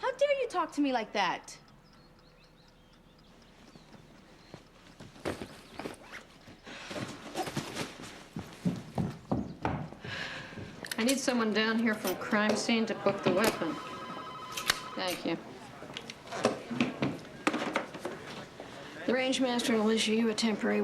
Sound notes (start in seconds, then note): 5.7 sighs; 10.0 sighs